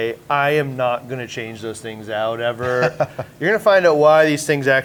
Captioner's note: chuckles